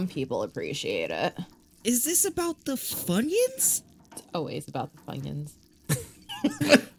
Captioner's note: laughter